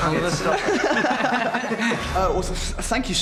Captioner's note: laughing